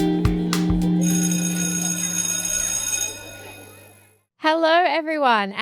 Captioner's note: school bell ringing